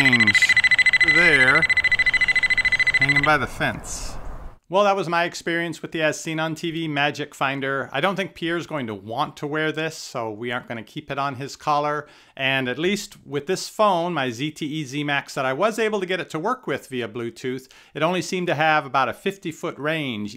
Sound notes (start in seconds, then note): 0.0 multiple beeping